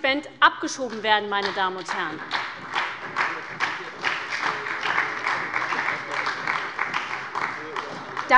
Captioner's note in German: Beifall bei der SPD